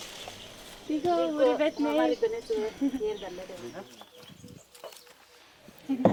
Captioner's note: speaking foreign language